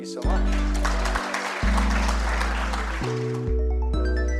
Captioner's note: applause